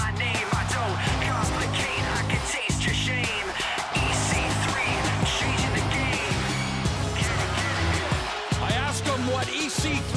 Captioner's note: crowd cheering